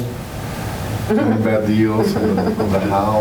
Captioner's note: laughter